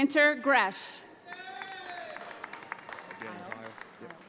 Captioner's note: audience applauding